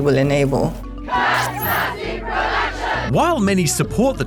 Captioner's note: all chant